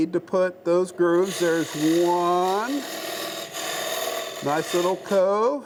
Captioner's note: machine roaring